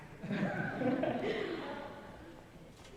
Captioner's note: laughter